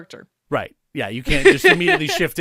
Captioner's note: laughs